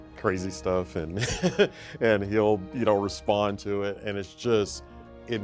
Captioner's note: chuckles